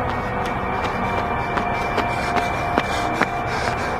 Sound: Mason pants

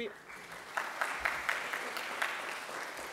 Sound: applause

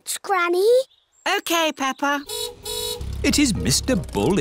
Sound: car horn honks

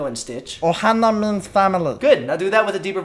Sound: Stitch voice

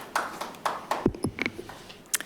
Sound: light applause

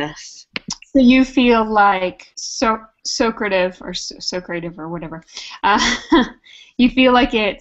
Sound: laugh

